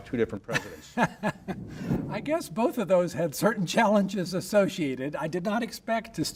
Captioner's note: laughs